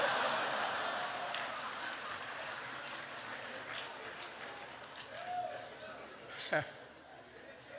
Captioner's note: laughter and applause